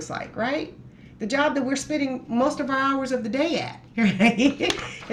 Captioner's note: laughs